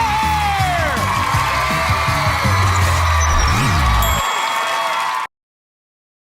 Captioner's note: audience cheering